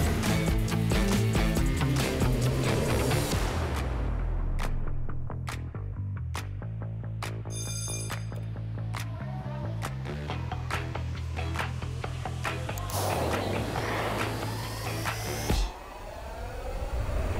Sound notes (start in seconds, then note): 7.4 bell rings; 11.4 upbeat music